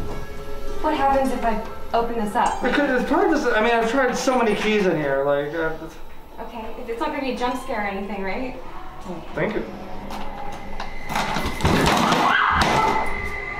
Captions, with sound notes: What happens if I open this up? Because, it’s probably just I mean, I have tried so many keys in here. Okay. It’s not gonna be a jump scare or anything right? Thank you. [Thump] [Screech]